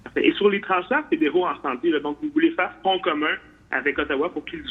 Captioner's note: speaks French